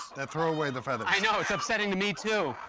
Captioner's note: chicken squawks